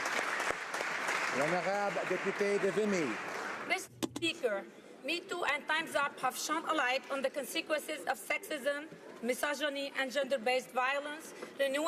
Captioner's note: applause